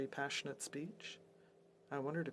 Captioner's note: speaking French